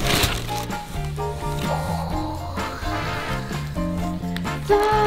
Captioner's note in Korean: 박스 여는 소리; 감탄하는 소리